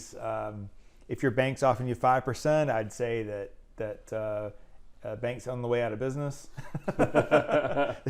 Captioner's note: laughing